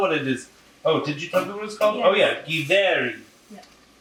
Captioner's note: regular voice